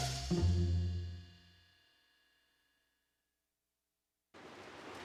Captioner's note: silence